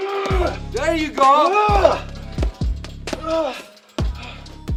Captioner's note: boxer groaning